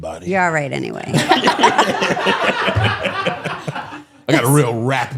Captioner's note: all laughing